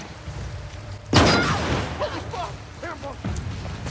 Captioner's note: device explodes; soldiers shouting